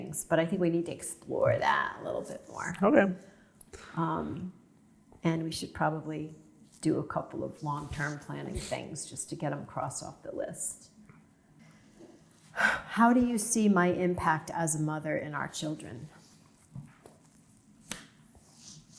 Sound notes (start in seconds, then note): none